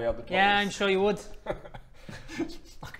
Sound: guilty laugh

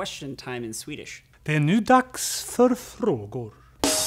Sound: speaking swedish

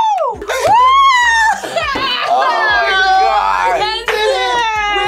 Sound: laughs

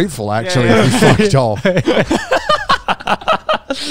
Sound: everyone laughs

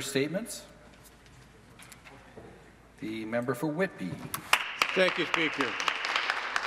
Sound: applause

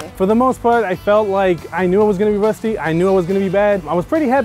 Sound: none

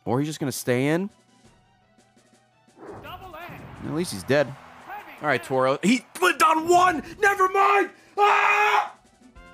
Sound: screams

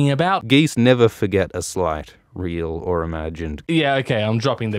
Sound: Alt Schwift X voice

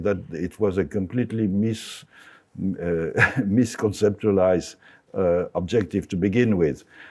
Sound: chuckles

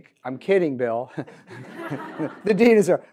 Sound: audience laughs

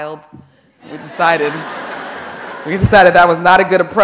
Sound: audience laughing

